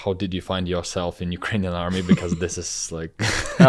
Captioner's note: laughs